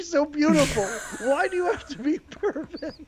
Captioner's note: laughing